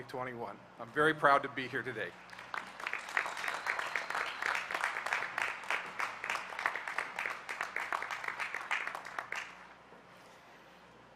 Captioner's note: applause